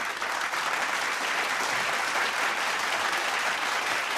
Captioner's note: applause